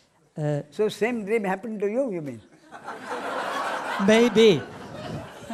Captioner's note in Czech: smích